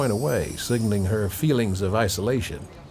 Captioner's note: bells chiming